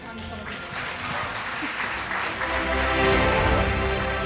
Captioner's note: the audience applauds